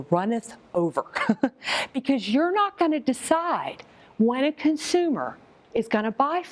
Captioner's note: laughs